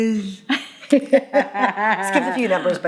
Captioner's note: laughing